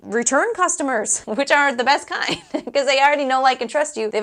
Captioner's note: laugh